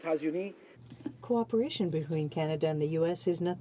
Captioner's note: speaking French